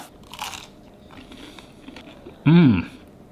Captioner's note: chicken crunching